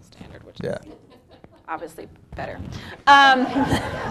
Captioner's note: audience laughing